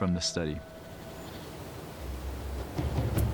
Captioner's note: wind whipping